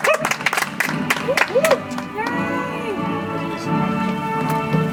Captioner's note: audience applauds